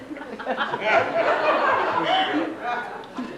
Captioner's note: laughter